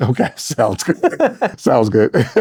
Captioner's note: laughing